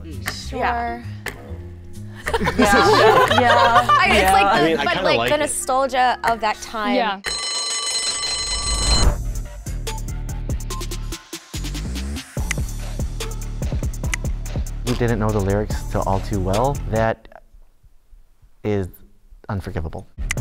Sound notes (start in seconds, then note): 2.2 everybody laughs; 7.2 bell rings; 9.0 upbeat suspenseful music; 20.2 upbeat suspenseful music